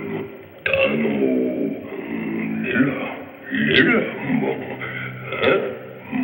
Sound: grunting gibberish

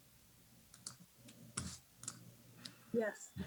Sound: mouse clicks

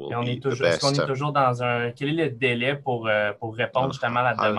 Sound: speaking in French

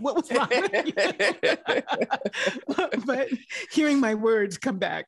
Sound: both laughing

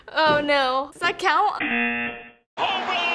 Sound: buzzer

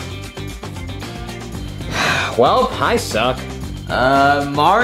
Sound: sighs

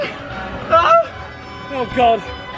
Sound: yelps breathlessly

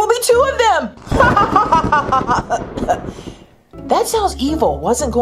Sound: thunder rumbling; laughing maniacally

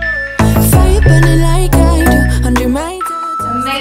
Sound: timer beeping

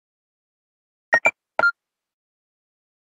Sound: sound of pressing a secret code

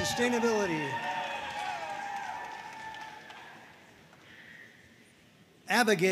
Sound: audience cheering and applauding

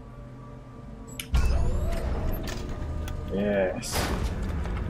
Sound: machinery whirring

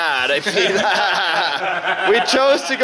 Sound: everyone laughs

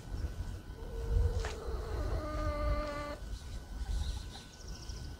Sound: hen clucking

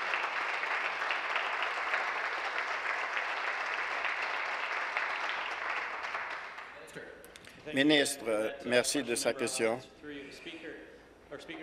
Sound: applause

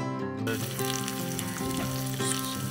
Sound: food sizzling on the hob

